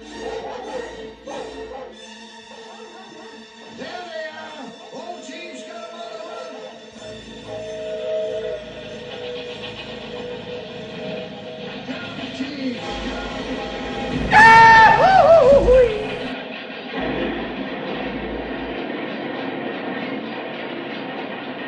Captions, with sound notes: [barking] [train chugging along] [train whistle blowing again] Yahoo-hoo-hoo-hooey! [rolling stock clattering]